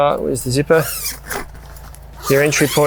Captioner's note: zipper zipping